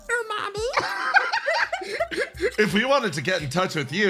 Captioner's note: laugh